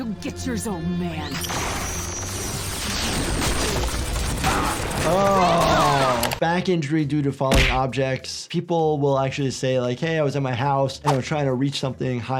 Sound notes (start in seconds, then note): 3.4 laser blasts